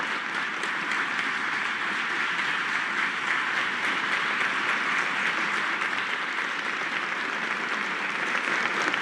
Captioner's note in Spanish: aplausos